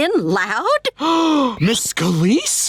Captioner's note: gasping